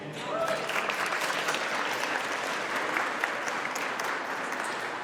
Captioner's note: audience applauds